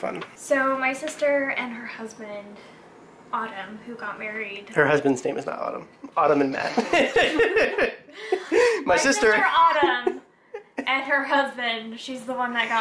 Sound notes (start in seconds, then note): 6.6 laughing